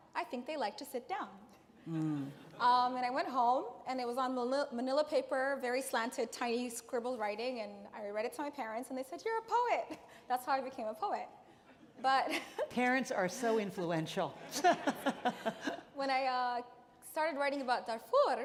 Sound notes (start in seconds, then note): 14.4 audience laughing; 14.5 Ann laughing